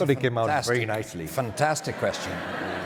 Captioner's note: audience laughter